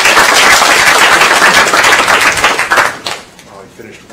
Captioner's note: applause